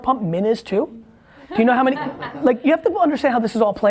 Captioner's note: laughs